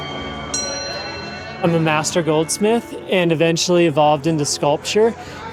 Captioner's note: sculpture dings